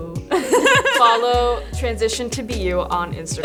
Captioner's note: laugh